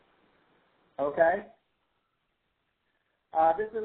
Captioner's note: voiceover